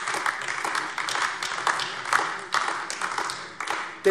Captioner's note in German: Beifall AfD